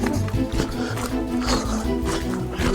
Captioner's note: footsteps